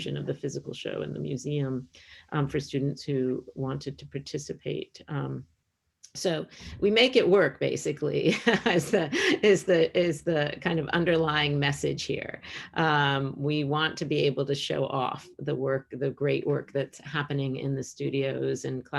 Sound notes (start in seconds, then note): 8.7 laughs